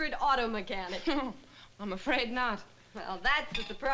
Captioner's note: chuckles